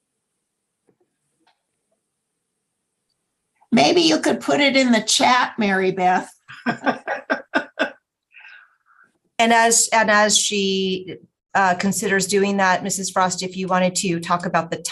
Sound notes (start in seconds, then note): 6.5 laughter